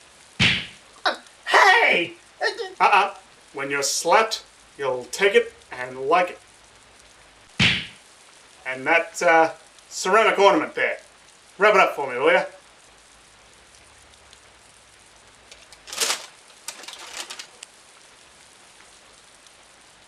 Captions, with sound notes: [Slap] Uh! Hey! Uh-uh! When you're slapped, you'll take it and like it! [Slap] And that uh... ceramic ornament there... Wrap it up for me, will ya? [Paper bag rustling]